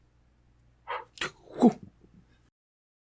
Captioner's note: makes sound of throwing and catching the ball